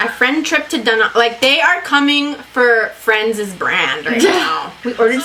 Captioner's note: laughs